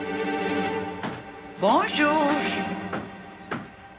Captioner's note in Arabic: تكلم الفرنسية